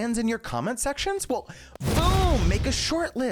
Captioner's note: fire crackling